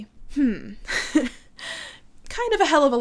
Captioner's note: laughs